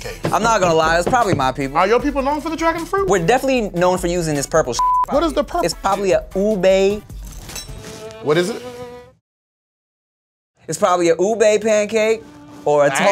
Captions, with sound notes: - I'm not gonna lie, its probably my people. - Are your people known for the dragon fruit? - We're definitely known for using this purple (beep). - What is the purple? - It's probably a Ube-- (violin music) - What is it? - It's probably a ube pancake,